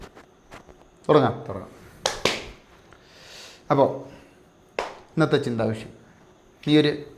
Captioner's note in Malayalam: ചീറ്റുന്നു